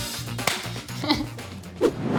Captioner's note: hands slapping; laughing; screen whooshing